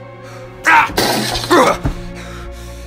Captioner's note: frustrated Screaming